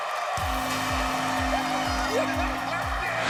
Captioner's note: buzzer blares